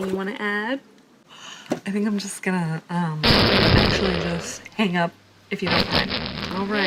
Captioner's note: farts